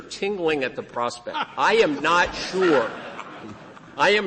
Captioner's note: laughter